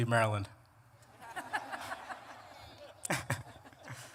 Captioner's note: laughter